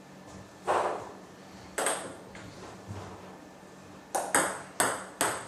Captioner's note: ball ping pong hitting continues